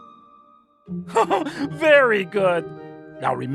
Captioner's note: laughs